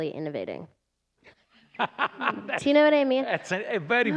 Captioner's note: laughter